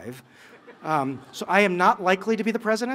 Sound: laughter

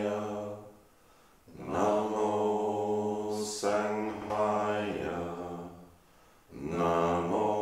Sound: chanting in unison

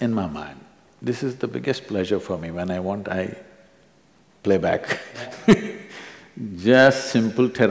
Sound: laughs

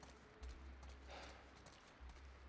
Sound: sigh

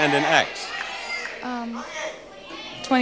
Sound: audience shouting

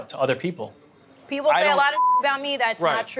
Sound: beep

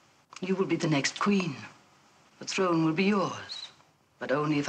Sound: none

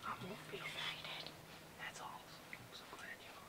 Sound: whispers

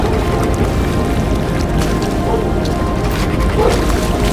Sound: dog barking

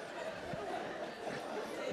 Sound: laughter

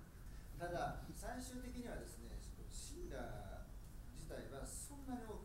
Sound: speaking in foreign language

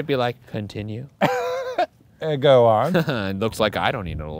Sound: laughs

